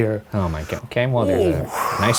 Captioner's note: grunting